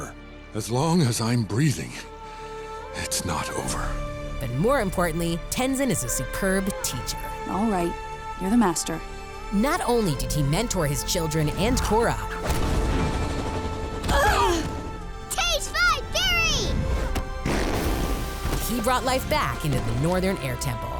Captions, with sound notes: As long as I'm breathing... it's not over. But more importantly, Tenzin is a superb teacher. All right, you're the master. Not only did he mentor his children, and Korra... [grunting] Taste my fury! [farting] He brought life back into the Northern Air Temple.